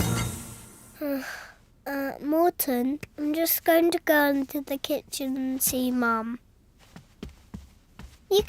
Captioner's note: sighs